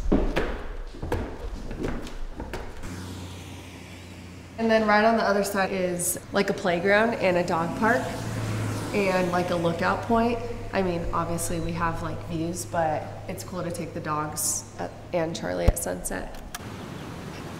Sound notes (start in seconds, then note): 0.0 footsteps thumping; 3.2 traffic rumbling; 16.6 birds chirping